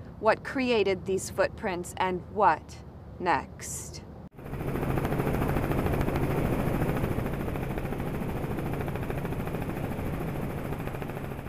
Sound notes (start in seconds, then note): 4.3 helicopter whirring